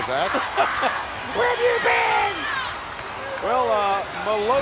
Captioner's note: laugh